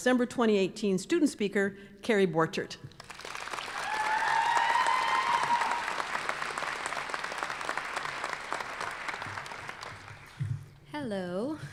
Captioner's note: applause